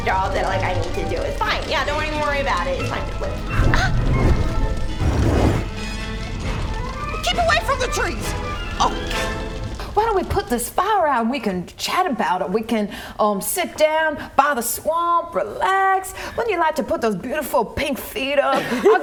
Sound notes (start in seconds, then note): 5.3 whoosh